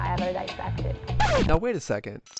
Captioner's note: audio scratching